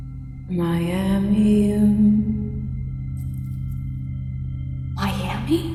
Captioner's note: speaking in foreign language